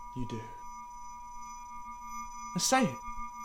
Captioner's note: high-pitched tone ringing